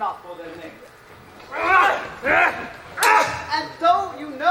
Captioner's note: battle grunts